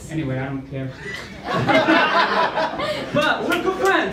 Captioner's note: laughter